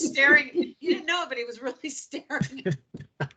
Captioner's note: laughing